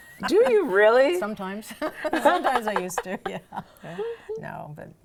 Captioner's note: laughs